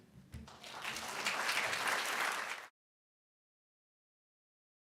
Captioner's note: applause